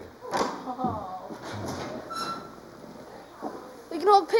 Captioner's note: gate creaking